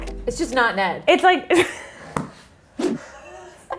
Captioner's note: laughs